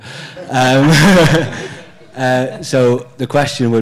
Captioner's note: audience member laughs